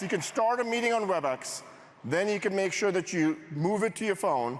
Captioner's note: applause